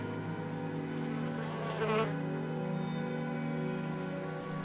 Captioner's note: bees buzzing